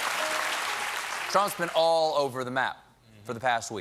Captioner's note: cheers and applause